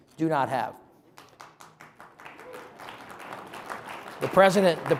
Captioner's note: audience applauding